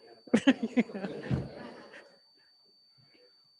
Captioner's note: laughs